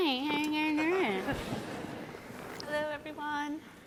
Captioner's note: audience laughing